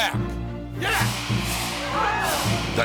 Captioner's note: crowd clamoring